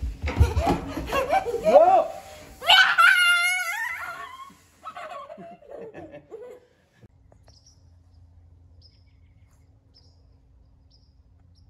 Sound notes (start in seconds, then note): 0.4 laughing; 4.8 laughter; 7.3 birds chirping